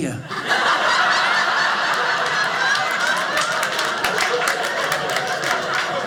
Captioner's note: audience laughing